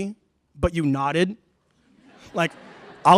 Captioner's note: laughter